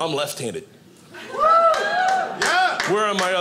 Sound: audience cheering

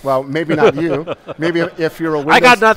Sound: laughing

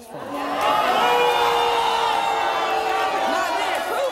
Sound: audience yelling

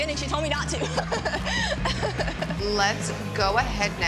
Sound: laughs

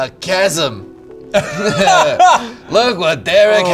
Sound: all laugh

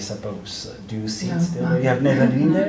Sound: laughs

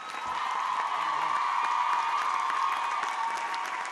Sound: applause

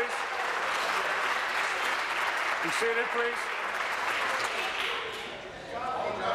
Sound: applause

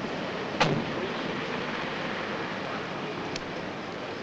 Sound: van door slams

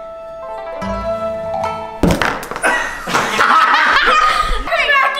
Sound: traditional music; all laughing

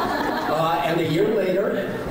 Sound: laughing

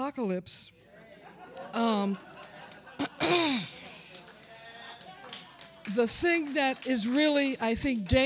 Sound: applause & laughter

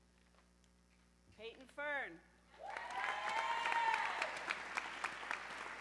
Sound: audience cheering

